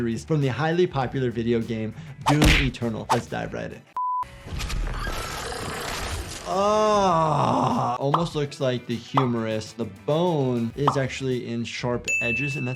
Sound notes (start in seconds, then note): 5.0 creature chitters; 5.8 blood sloshes